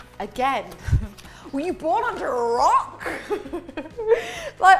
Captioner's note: laughs